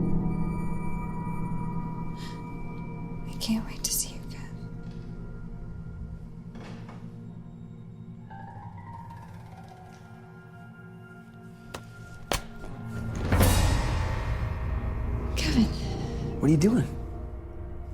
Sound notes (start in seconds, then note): 2.0 gasps; 6.5 door closes; 8.0 ominous music